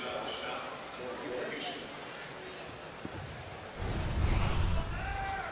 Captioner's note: announcer speaking